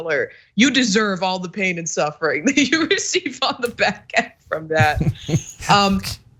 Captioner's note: laugh